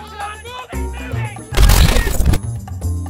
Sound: deletion noises

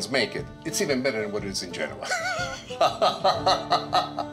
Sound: laughs

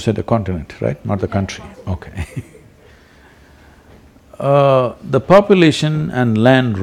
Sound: laughs

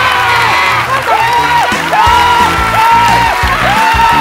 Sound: yelling

